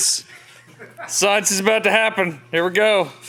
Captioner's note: laughs loudly